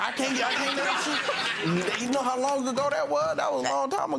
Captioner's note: audience laughing